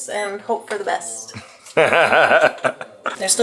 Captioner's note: laughter